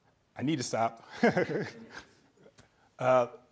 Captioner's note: chuckling